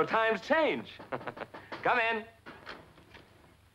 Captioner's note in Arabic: طرق الباب